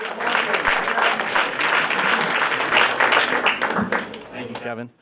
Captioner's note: applause